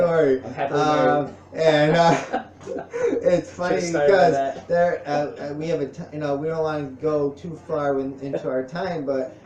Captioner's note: laughs